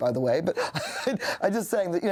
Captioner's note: chuckling